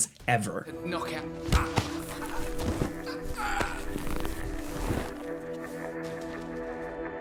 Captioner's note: person choking